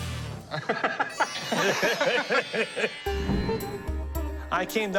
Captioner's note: laughter